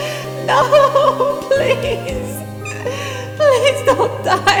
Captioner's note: sob